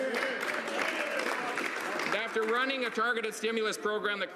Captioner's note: some Applause